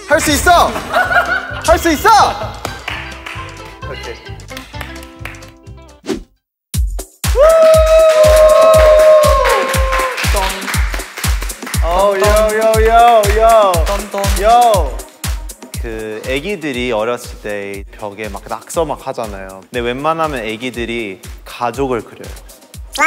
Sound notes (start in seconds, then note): 7.3 the audience cheers; 10.2 sings with enthusiasm; 11.7 adds cheers in excitement